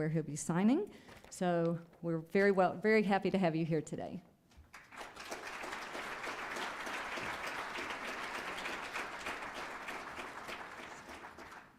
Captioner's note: applause